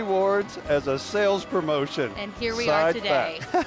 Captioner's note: laughing